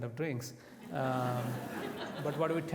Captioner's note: audience laughs